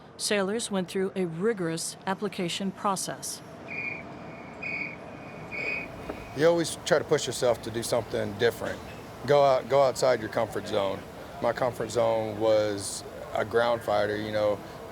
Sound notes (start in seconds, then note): 3.6 whistle blowing